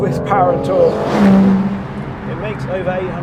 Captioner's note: car zooming